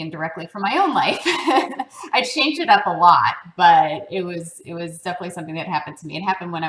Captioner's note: laugh